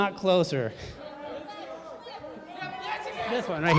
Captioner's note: crowd talking